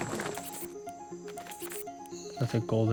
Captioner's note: bat squeaks